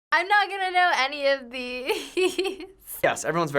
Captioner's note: laughs